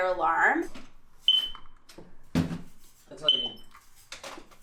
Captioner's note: fire alarm beeps